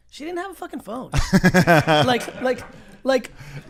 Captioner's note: laughs